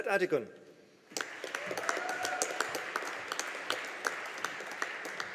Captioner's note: audience applauding